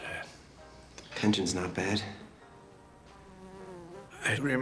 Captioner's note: fly buzzes